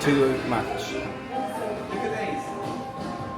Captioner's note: blues music; crowd chattering